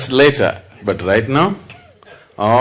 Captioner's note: laughs